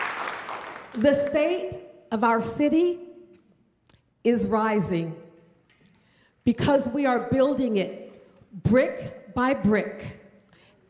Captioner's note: applause